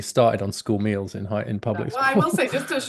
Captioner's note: laughs